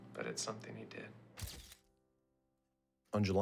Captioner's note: camera bulb flash